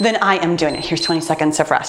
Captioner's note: timer beeps